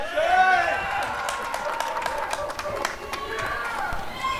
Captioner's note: applause and cheering